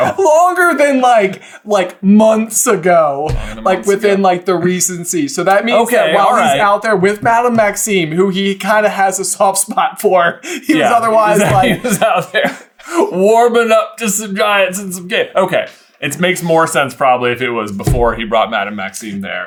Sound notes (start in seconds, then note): 10.4 laughing